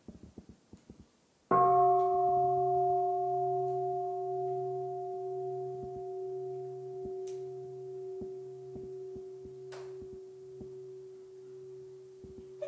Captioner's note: the sound of the bell